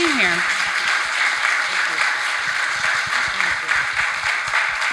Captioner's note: audience applauds